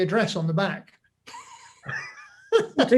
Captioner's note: both laugh